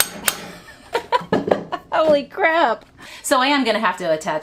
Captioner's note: laughing